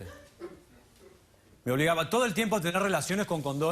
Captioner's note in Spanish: risas